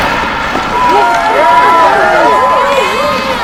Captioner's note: cheering